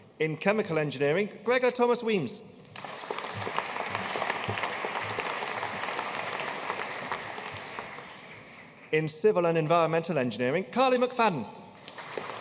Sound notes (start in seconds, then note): 2.7 audience applauding